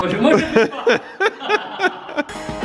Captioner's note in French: rire